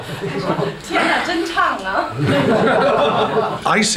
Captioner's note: non-english speech